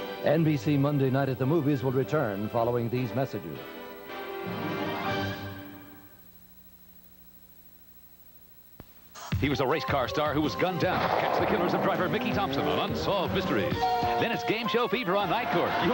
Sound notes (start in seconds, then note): 10.8 gunshot